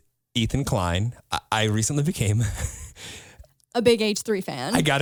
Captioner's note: laughs